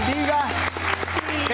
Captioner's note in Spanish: Aplausos